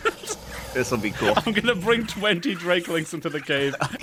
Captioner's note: laughing